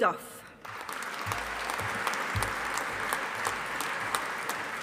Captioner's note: audience applauding